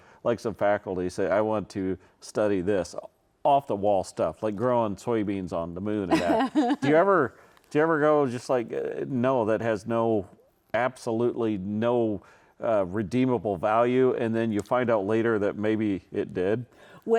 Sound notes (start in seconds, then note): 6.1 laughs